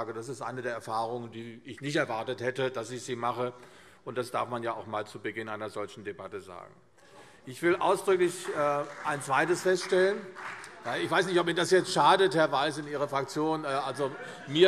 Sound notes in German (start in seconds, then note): 7.6 Beifall CDU und SPD